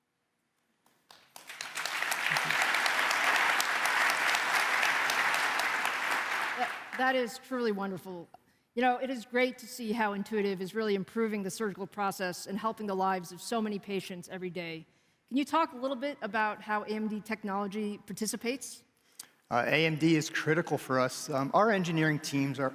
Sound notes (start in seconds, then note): 3.4 applause